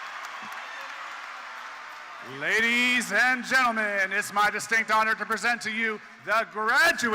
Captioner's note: cheers and Applause